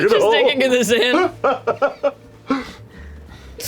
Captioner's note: laughs